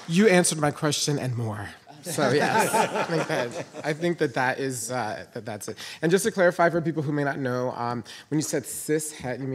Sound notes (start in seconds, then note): 1.9 panelists laughing